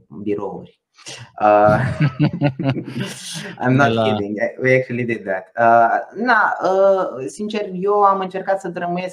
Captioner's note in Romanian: Râsete